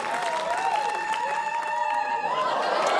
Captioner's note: whooping